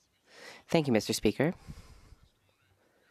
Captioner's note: speaking French